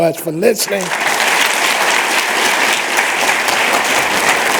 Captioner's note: applause